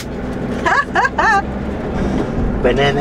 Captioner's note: laughter